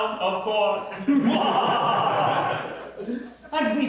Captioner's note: sinister laughter